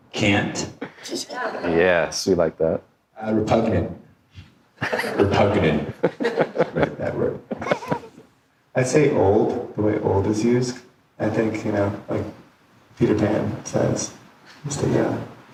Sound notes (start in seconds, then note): 4.8 laughing